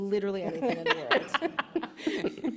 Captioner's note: laughter